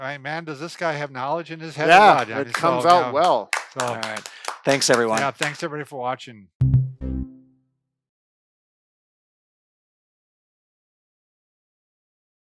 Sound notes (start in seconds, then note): 3.4 applauding